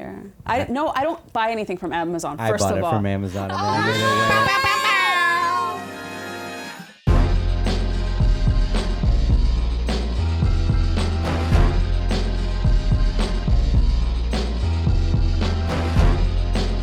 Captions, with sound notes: No, I don't buy anything from Amazon, first of all. - I bought it from Amazon. (laughing) (rock music)